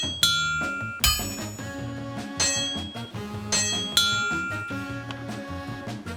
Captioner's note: anvil ding